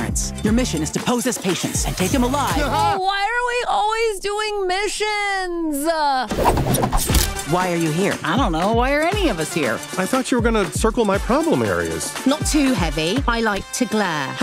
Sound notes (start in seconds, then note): 6.3 throw stars whooshing